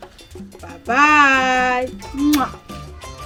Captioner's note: kisses